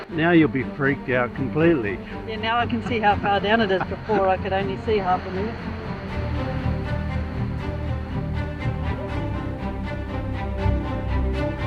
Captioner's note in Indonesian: tertawa